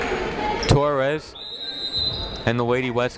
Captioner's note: people talking in the crowd; whistle tweeting